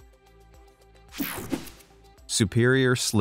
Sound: air whooshing

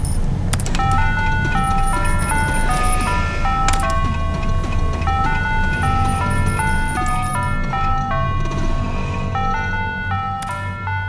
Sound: mobile phone rings

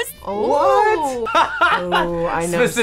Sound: laughs

